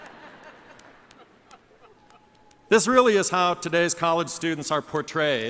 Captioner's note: laughter